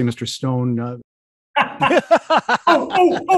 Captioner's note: laughter erupts